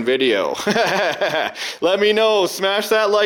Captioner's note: laughs